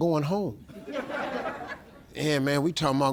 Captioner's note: audience laughs